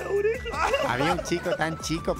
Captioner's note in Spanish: Todos ríen